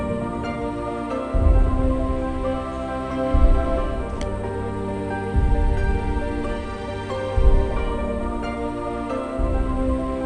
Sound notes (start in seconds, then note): none